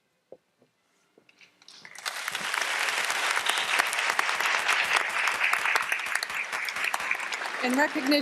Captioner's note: applause